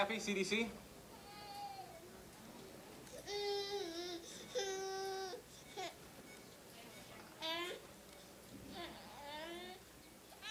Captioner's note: child crying